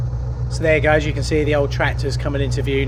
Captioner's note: voiceover